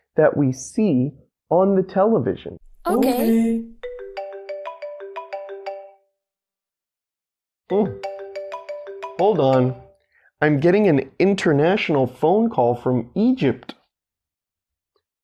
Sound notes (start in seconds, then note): 3.8 phone rings